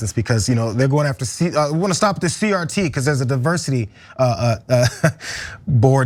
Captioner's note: laugh